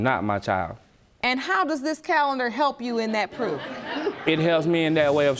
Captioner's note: audience laughing